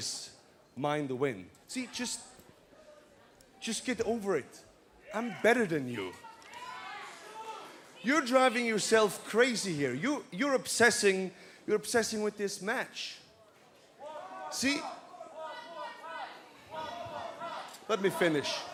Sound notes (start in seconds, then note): 14.8 fans chanting